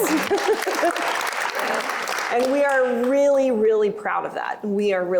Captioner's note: applause